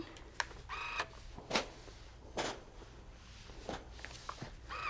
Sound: iron whirring

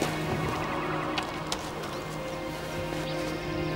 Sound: footsteps running off

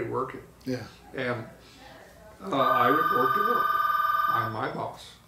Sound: ringing

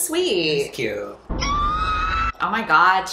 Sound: screaming

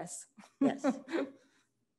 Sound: laughing

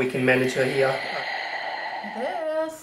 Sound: oxygen mask breathing sound

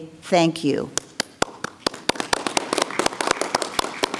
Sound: all clapping

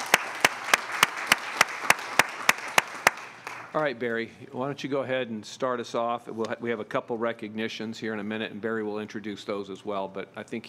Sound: applause

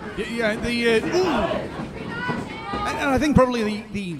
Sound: rabid stuttering

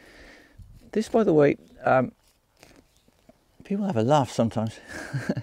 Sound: laughs

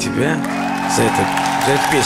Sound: audience cheers

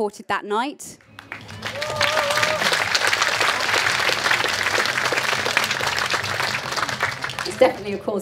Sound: applause

